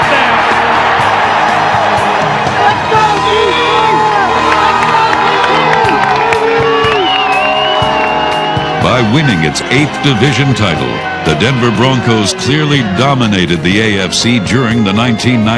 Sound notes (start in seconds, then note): 3.6 crowd cheering